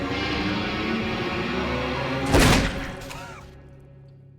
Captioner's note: gunshot